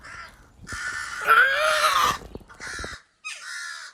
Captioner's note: bird wretching